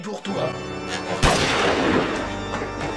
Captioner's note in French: Bang !